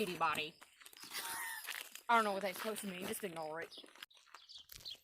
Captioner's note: confused laughter